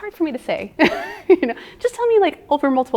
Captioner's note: giggling